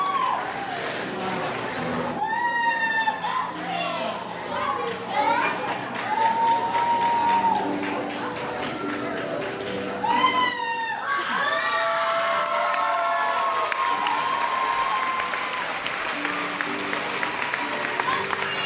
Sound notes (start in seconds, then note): 6.1 crowd shouts; 10.5 crowd cheers